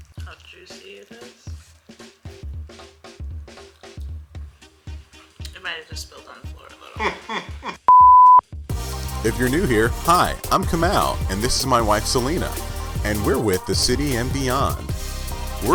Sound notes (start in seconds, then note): 7.0 laughs; 7.9 beeping